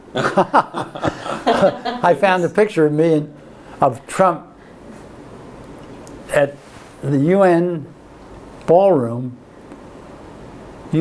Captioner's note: laughter